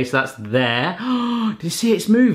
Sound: gasps

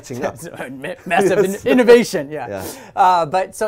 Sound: chuckles

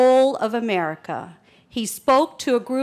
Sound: none

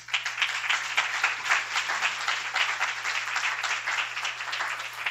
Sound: applause

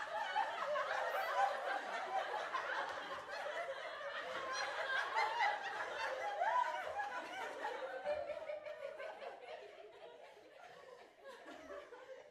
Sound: crowd laughing

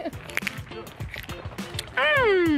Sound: chewing

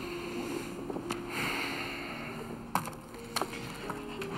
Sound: sighs

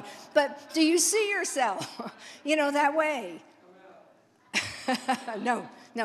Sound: laughs

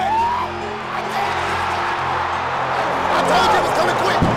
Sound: cheering

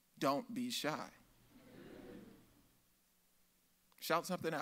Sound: audience laughs

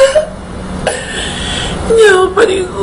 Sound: cries

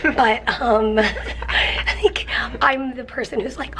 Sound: chuckling

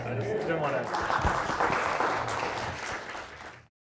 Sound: clapping

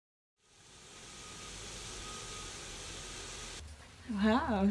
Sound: water fountain

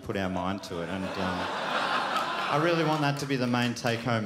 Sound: crowd laughs

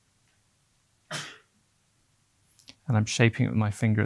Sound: sneezing in background

